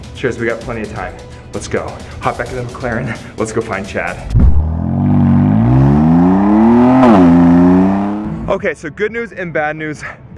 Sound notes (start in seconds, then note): 4.3 engine growling